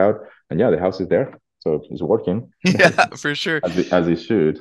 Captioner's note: laughs* Yeah!